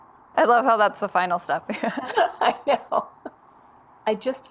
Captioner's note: laughs